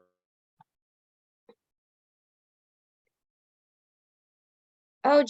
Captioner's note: video, audio halts